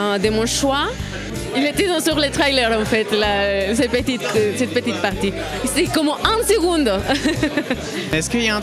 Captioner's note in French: rire